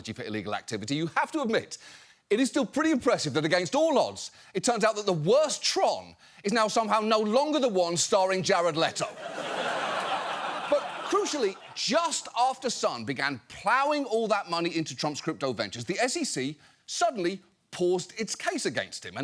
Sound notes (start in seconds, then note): 9.0 audience laughs